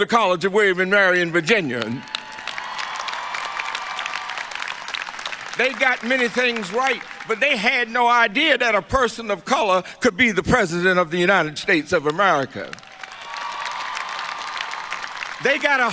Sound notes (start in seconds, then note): 1.3 applause; 12.6 applause